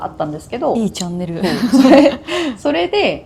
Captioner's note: laughs